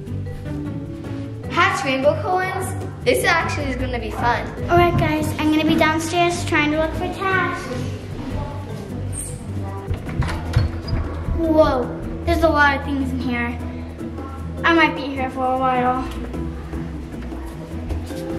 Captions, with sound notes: Hatch Rainbocorns? This actually is going to be fun. - All right, guys, I'm going to be downstairs trying to look for tasks. (door squeaks) Whoa. There's a lot of things in here. I might be here for a while.